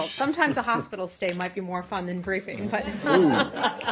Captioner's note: laughter